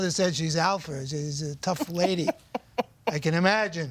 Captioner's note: laughs